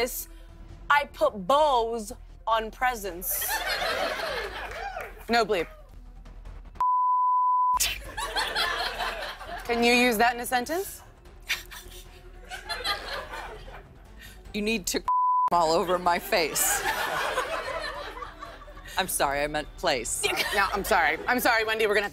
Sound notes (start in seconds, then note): 11.4 laughter